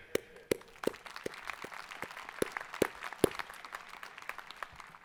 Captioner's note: audience applauding